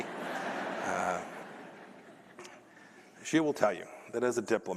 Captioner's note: laughter